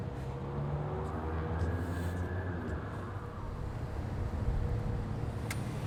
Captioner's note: traffic hums faintly